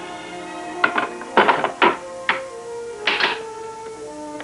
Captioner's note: clacking